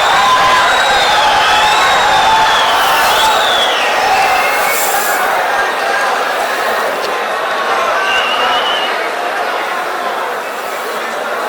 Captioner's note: wild applause and cheering for 22 seconds